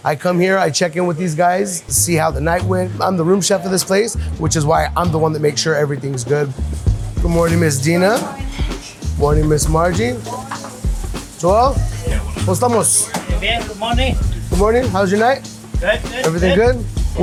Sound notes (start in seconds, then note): 11.8 talks in Spanish